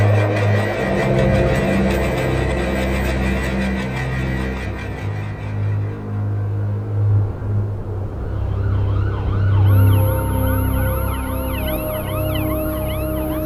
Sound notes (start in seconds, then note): 8.7 sirens wailing